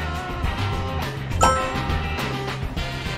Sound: win tone chimes; anticipatory music playing

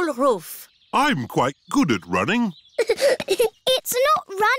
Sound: giggling

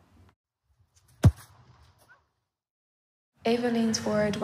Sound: ball kicking sound

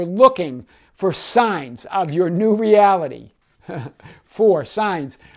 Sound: laughs

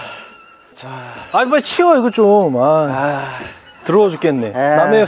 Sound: sound of pain

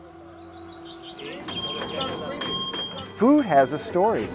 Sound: bells

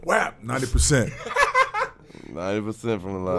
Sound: laughing

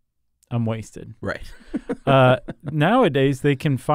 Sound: laughs

